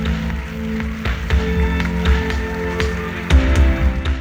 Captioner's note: cheers and applause